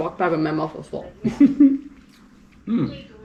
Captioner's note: laughing